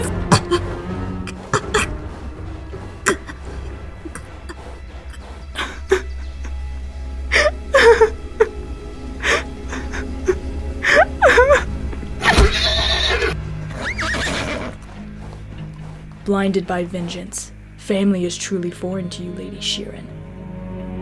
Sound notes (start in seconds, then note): 5.5 Katanah crying; 12.2 Katanah neighs